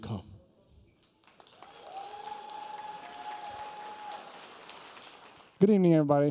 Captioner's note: audience applauding; audience cheering